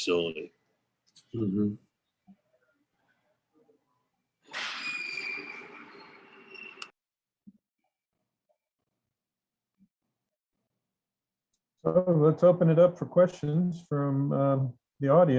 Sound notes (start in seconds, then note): 4.5 small crash and loud creak